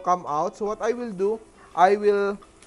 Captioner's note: sizzle